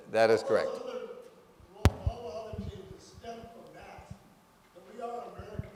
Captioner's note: speaker speaking faintly